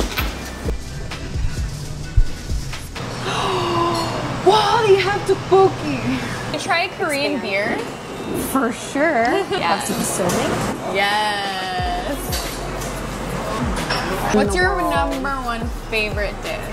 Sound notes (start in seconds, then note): 3.2 gasping